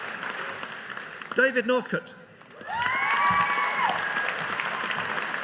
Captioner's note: audience cheering